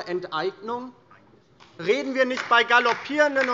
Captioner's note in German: Beifall DIE LINKE